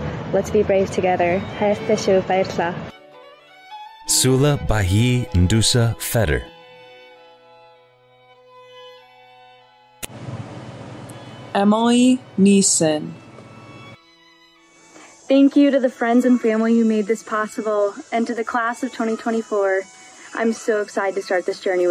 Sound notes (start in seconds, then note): 1.5 non-english speech